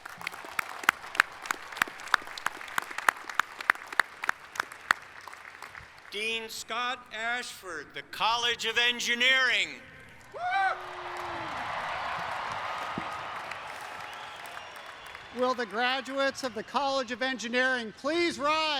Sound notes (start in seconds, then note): 5.6 applause; 14.0 applause